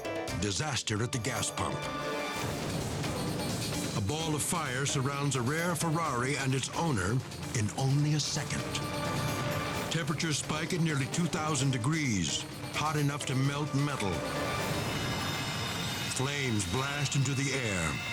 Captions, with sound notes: Disaster at the gas pump. (explosion booming) A ball of fire surrounds a rare Ferrari and its owner in only a second. Temperatures spike at nearly 2,000 degrees, hot enough to melt metal. Flames blast into the air.